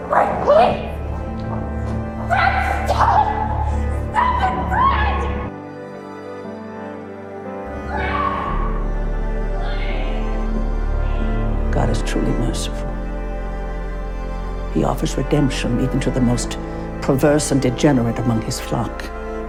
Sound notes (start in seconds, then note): 2.5 shouting; 8.5 shouting; 12.0 voiceover